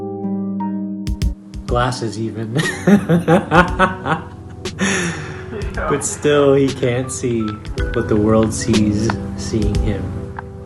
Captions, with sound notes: - Glasses even (laughs). But still, he can't see, but the world sees seeing him.